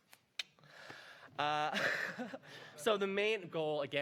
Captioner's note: laughter